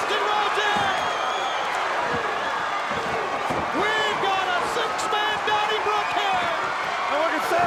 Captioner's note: applause